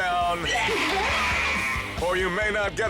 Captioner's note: person screams